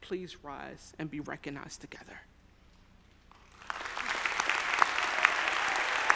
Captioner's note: audience applauding